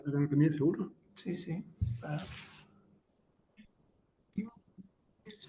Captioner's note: speaking in Spanish